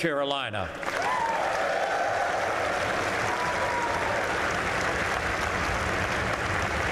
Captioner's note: applause